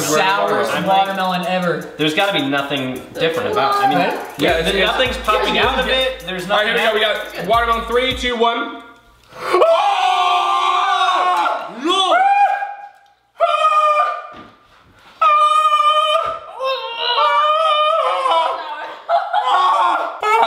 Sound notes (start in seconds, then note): 9.4 screams; 13.4 high pitched screams